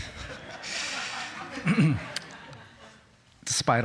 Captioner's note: laughter